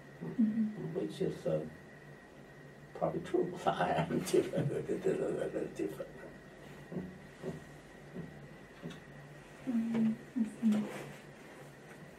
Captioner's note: laughs